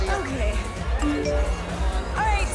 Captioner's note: phone chimes